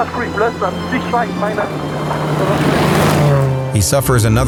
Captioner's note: motor revving